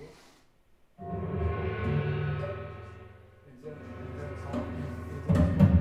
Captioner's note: gong sounding